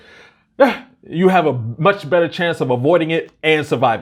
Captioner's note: sighs